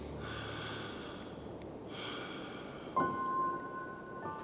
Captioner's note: suspenseful music; James exhales